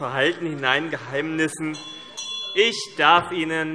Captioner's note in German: Beifall BÜNDNIS 90/DIE GRÜNEN - Unruhe - Glockenzeichen